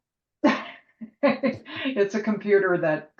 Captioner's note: laughs